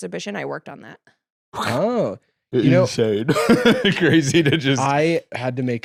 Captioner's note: laughs